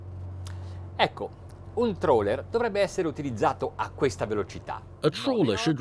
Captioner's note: speaking foreign language